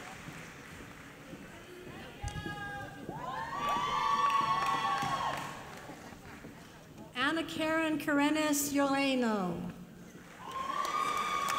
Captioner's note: applause